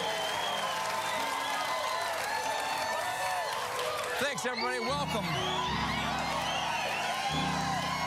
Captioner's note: cheers and applause